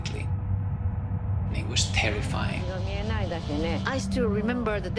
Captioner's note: soundbite of archived recording